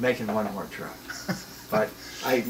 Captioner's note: laughing